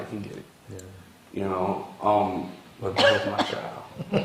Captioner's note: laughter